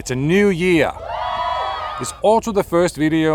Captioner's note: crowd cheering